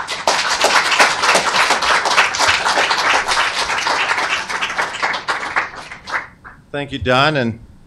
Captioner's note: applause